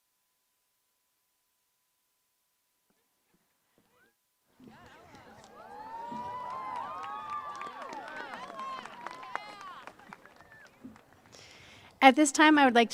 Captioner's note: applause